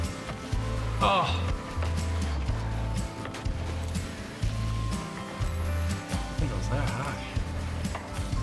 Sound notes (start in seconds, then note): 0.8 moans